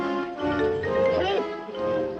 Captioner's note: groaning